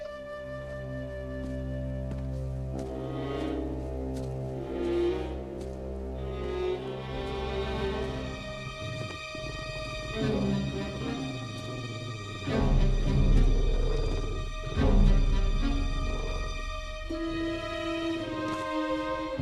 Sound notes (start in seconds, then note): 3.1 low ominous music; 11.9 creature grumbling lowly